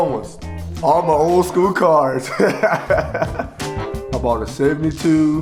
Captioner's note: laughs